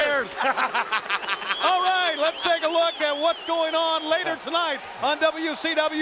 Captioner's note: laugh